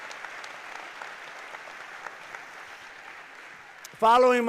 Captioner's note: applause